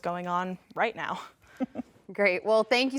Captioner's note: chuckles